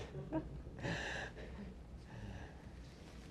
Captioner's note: laughter